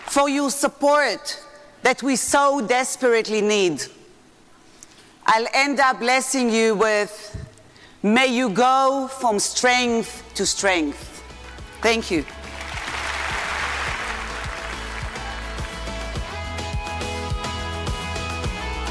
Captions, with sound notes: for your support that we so desperately need. I'll end up blessing you with may you go from strength to strength. Thank you. (audience applauding) (upbeat inspiring music)